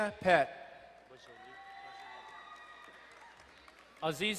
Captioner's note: crowd cheering and applauding